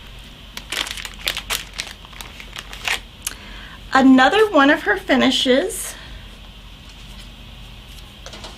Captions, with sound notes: (bag crinkling) Another one of her finishes